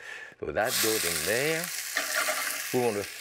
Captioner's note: oil sizzling